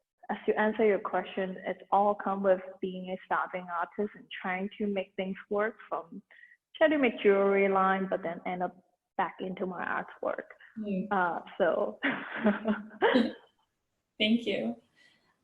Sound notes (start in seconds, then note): 12.1 chuckles